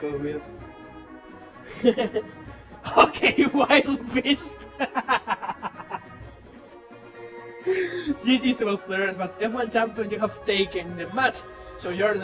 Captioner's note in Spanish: Risas